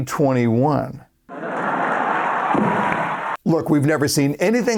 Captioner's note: crowd applause